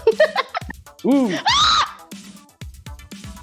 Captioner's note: screams